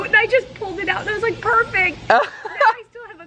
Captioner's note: laughs